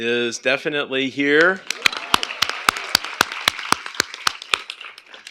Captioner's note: applause